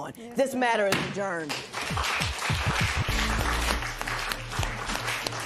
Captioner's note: applause